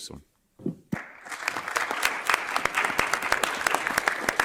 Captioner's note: audience clapping